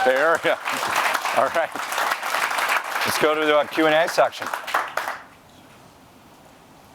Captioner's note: cheers and applause